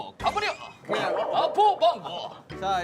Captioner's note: kekeke